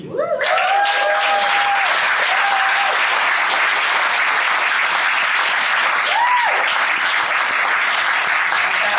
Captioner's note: applause and cheers